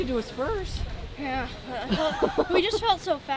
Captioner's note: trainer laughing